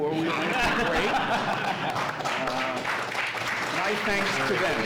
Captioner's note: audience laughs and applauds